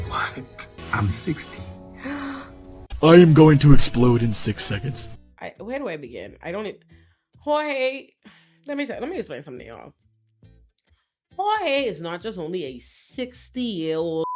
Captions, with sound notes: What? I'm 60. (gasps) I am going to explode in six seconds. Where do I begin? Jorge, let me explain something to y'all. Jorge is not just only a 60 year old